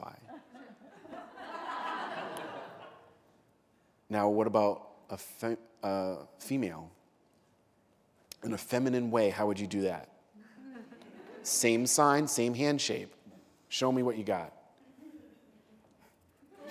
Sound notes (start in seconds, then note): 0.1 laughter; 10.4 laughter; 16.4 laughter